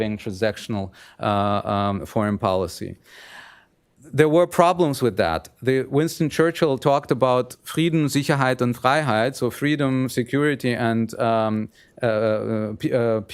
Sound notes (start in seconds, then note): 8.1 speaking german